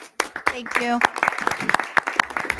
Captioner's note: people clapping